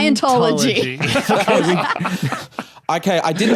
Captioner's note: group laughing